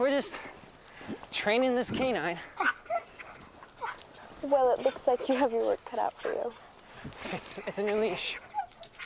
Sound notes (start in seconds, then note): 2.6 panting; 2.8 Buck whining